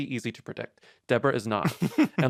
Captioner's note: laughs